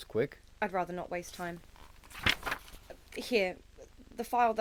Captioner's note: paper rustling